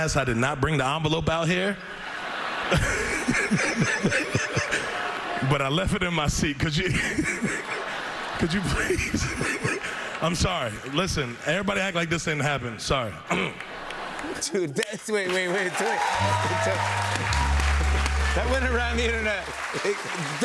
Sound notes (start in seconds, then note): 1.8 laughter; 6.8 laughter; 13.3 laughter; 15.9 cheers and applause; 16.8 sad tuba